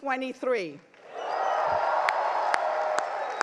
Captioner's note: crowd cheers; crowd applauds